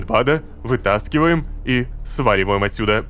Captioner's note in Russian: шепотом